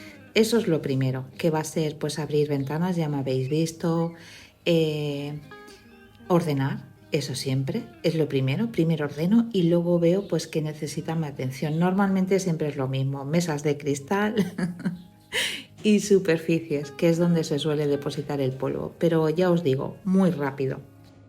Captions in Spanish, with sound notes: Eso es lo primero que va a ser pues abrir ventanas, ya me habéis visto, eh, ordenar, eso siempre es lo primero. Primero ordeno y luego veo pues que necesitan atención. Normalmente siempre es lo mismo, mesas de cristal [risas] y superficies, que es donde se suele depositar el polvo, pero ya os digo, muy rápido.